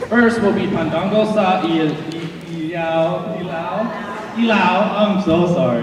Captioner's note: speaking foreign language